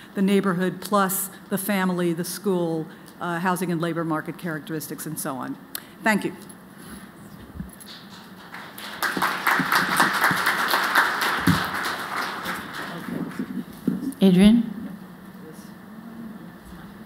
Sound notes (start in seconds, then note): 7.8 applause